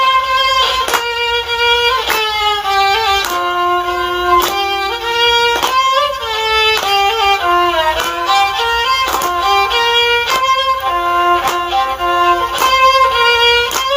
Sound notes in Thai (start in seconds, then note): 0.3 ปรบมือ